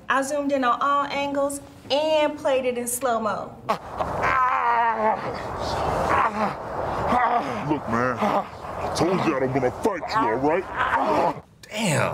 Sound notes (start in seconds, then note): 4.2 grunting